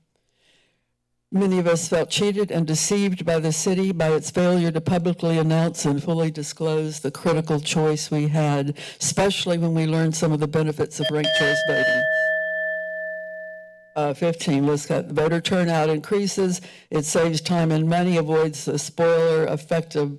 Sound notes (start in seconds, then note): 0.2 pause; 11.0 bell rings